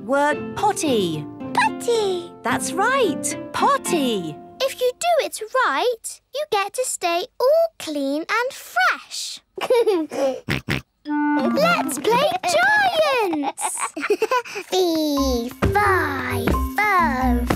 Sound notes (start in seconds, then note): 9.6 giggles, snorts; 13.0 giggles